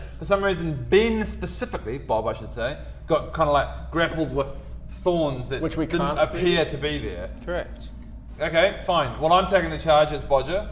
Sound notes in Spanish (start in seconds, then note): none